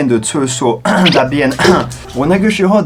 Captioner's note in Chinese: 咳咳